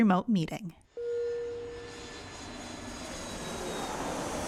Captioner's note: flying jet